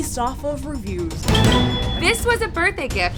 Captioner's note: beeping